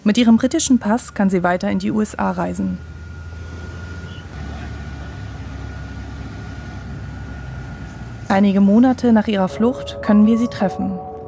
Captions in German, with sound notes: Mit ihrem britischen Pass kann sie weiter in die USA reisen. (Motorbrummen) Einige Monate nach ihrer Flucht können wir sie treffen.